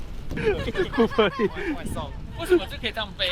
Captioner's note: laughs